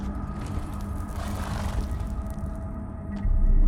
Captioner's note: horse snorting